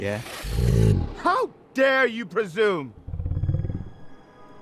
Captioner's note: lion's growl